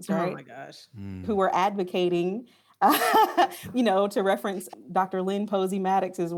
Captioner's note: chuckles